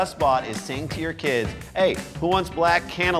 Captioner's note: italian accent